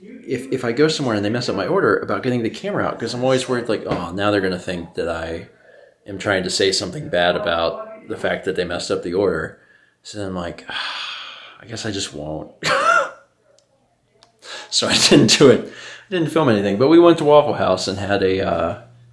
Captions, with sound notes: if I go somewhere and they mess up my order, about getting the camera out, because I'm always worried like "oh, now they're gonna think... that I am trying to say something bad about the fact that they messed up the order." So I'm like, *sigh* "I guess I just won't..." *wheeze* So I didn't do it, didn't film anything, but we went to Waffle House and had a, uh,